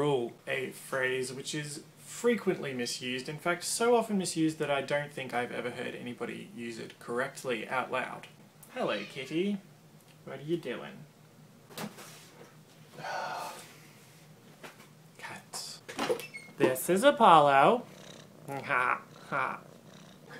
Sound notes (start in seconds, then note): 8.7 meow; 12.9 sighs